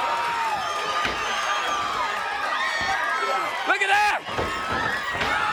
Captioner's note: crowd cheering